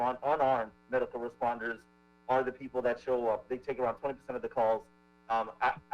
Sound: ~audio distortion~

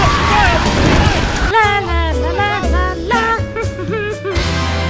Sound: humming

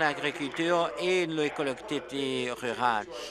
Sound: applause

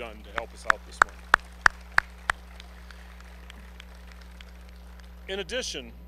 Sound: applause

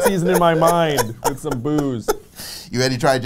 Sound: laughs

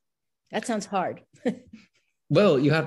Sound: chuckles

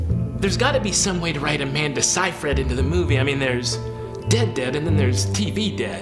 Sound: inner monologue

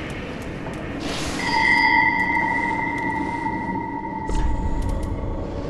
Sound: ding

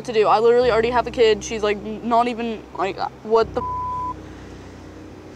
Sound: beep

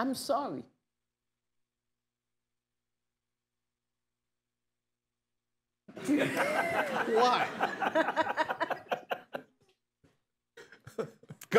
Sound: laughter

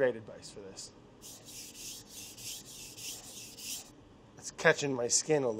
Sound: knife scraping

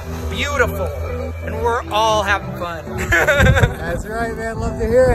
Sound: laughs

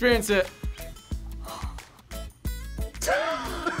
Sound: sighs; laughs

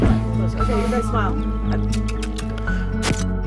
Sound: tongue clicks; camera click

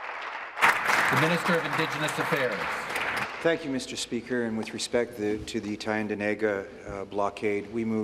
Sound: applause

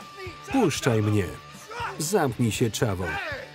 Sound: yelling

